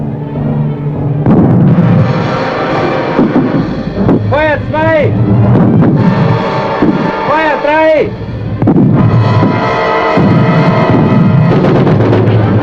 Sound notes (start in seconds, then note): 0.2 dramatic orchestral music; 2.7 speaking German; 6.3 dramatic orchestral music; 6.3 explosions